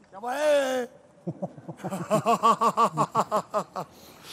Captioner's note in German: Der Mann grölt und lacht